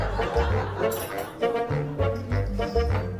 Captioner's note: laughter